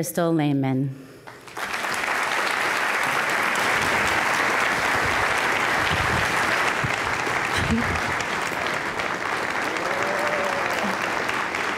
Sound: applause

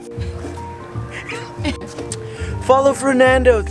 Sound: laughing

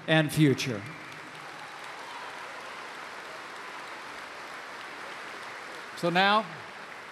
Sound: applause

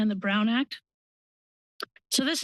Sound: pause

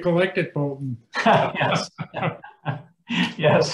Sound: laughing

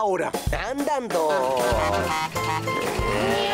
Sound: honk! Honk! Honk!

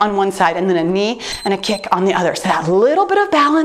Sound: timer beeps

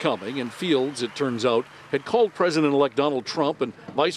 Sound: cheers and applause

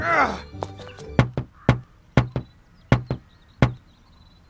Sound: groans; knocking

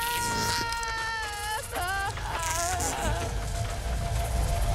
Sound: electrical buzzing, crackling; weak sobs; scream

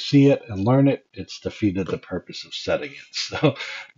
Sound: laugh

